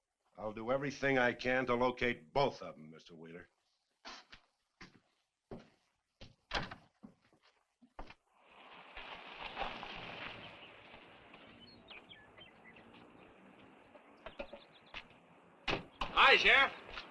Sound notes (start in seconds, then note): 6.4 door thuds; 12.1 birds chirping